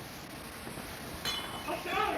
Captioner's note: glass shatters